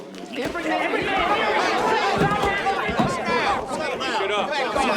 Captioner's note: men shouting